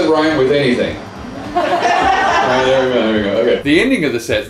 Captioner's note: laughter